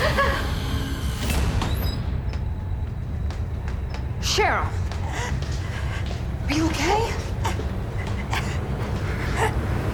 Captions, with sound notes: (laughs) - Cheryl, are you okay? (gasps)